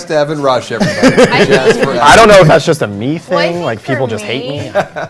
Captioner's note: laughter